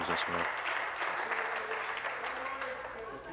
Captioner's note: applause